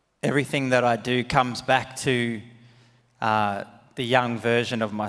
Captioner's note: none